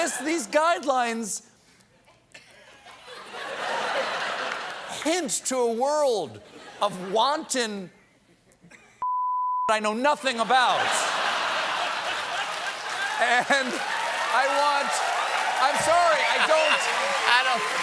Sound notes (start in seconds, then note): 2.0 laughter; 7.9 applause; 7.9 laughter; 10.6 cheering; 11.0 applause